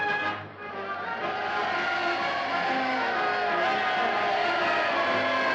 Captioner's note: crowd cheering